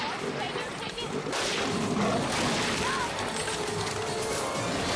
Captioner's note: rifle blasts